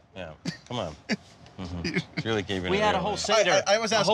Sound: laughing

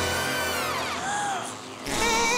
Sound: gasps

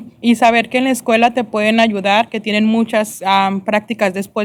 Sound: speaking spanish

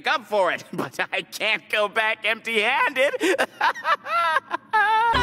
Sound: deranged laughter

